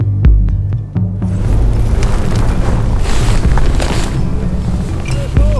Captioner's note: wind blows